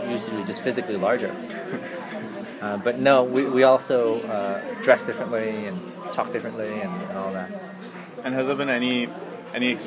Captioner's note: laughs